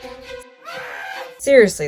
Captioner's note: woman screaming